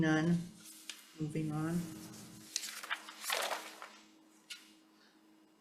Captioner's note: paper rustling